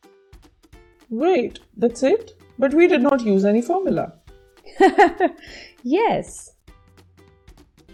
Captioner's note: laughs